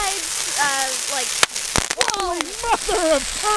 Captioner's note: spark exploding